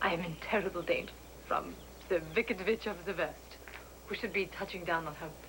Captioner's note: german acnt